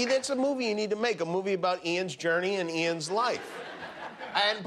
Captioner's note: laughter